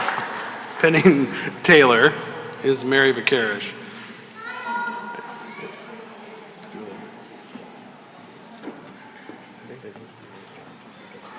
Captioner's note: applause; chuckle